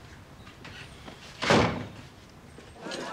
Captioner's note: door closes